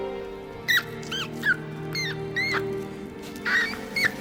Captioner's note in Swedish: råtta skriker